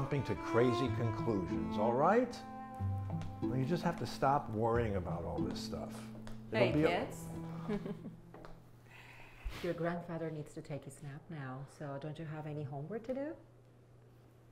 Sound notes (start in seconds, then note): 7.6 laughs